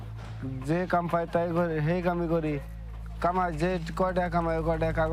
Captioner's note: speaking foreign language